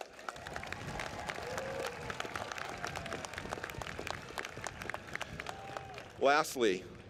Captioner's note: applause